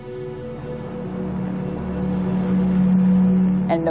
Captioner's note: solemn music playing; plane engine whirring